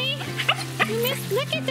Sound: dogs whining

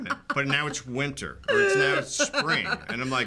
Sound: rowling laughing

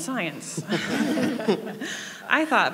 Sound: laughing

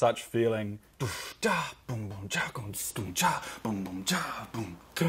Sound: imitates drums

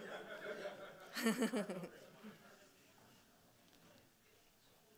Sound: audience laughing; laughing

